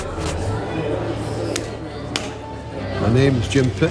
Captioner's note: hand claps